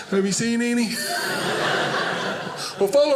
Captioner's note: audience laughing